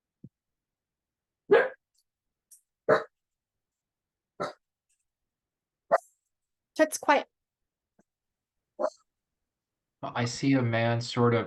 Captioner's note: dog barking